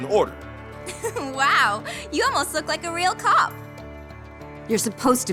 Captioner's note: laughs